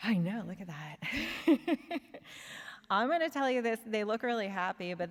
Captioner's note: laughs